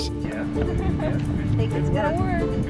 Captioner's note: laughing